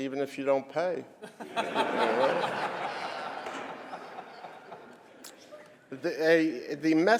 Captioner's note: laughter